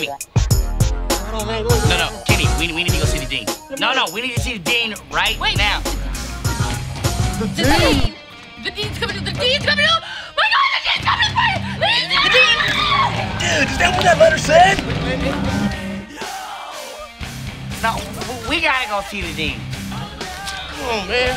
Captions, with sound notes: - Kenny, no, no, Kenny, we need to go see the dean. No, no, we need to see the dean right now. - The dean. - The dean. - The dean's coming, the dean's coming for you? My God, the dean's coming for you. (screams) - Dude, is that what that letter said? (rock music) - No, we gotta go see the dean.